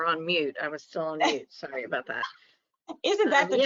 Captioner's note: laughs